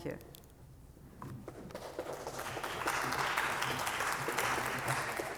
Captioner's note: applause